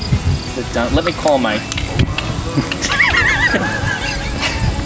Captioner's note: laughs